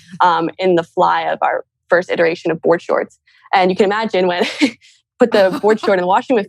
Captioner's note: laughs